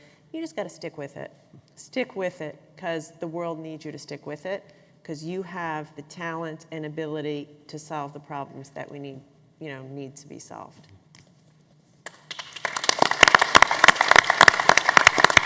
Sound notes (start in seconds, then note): 9.8 applause